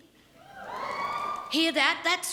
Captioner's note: scattered audience woos